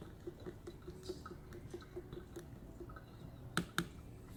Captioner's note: water stirring